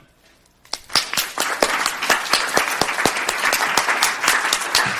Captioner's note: audience applauding